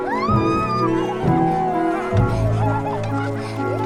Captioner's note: gritan y ríen